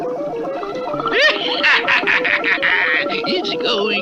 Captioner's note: Simon Bar Sinister Laughs